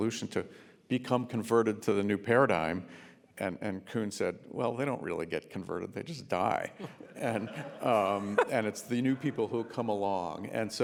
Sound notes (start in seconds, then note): 6.8 laughing